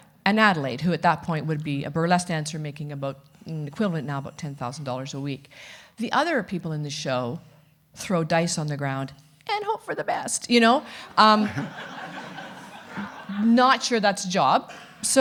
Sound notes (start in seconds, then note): 10.8 audience laughing